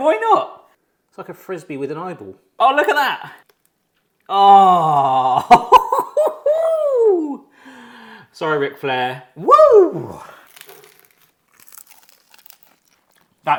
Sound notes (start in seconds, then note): 5.2 laughs; 9.4 cheering; 10.2 tortilla crunching; 12.0 both munching